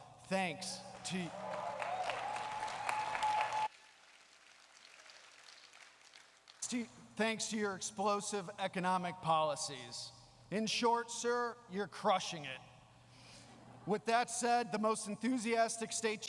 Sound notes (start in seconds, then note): 3.9 applause